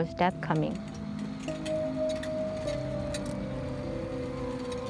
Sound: metal wheels clucking; somber music continues

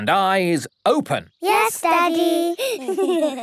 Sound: giggling

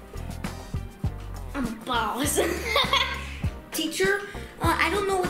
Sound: chuckles

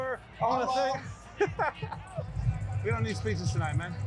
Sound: player laughs

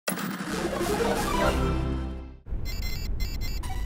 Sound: beep

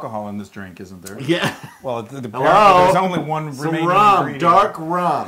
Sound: laughter

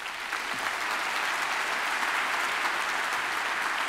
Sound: applause

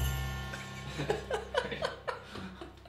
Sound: both laugh

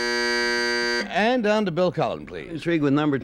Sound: buzzer sounds

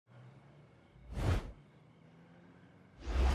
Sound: swoosh; swish

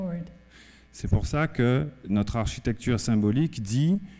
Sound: speaking french

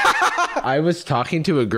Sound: laughs

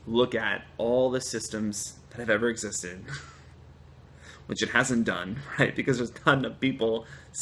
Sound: laughter

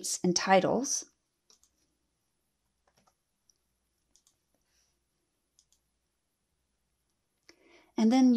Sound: typing

